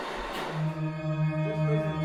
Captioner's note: humming sound playing